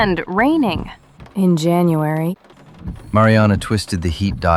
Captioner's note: grumbling